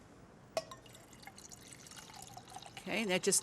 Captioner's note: water pouring